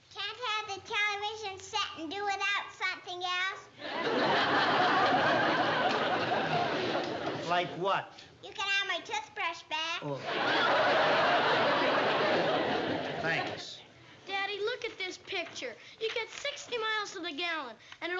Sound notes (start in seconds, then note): 10.0 groans